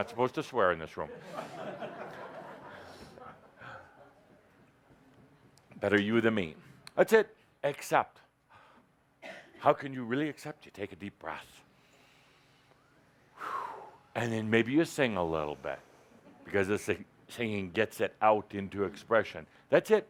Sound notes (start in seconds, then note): 4.2 laughter